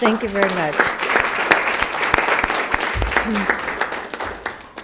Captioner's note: applauds